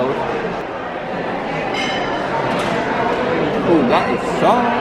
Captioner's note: indistinct chatters